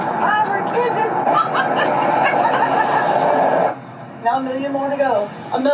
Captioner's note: laughs